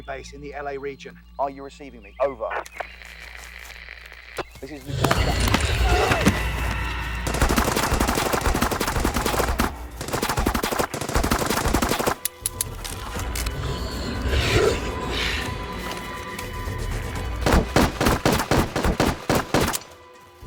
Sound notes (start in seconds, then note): 2.5 static buzzing; 4.6 soldier groans; 7.2 gunshots blasting; 12.2 rifle clicks; 12.4 vampire growls; 17.4 gunshots blasting